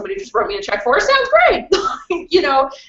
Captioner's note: laughs